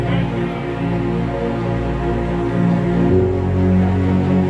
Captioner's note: crowd chatters